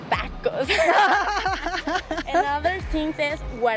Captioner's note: laughs